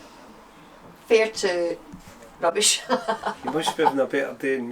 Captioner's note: laughs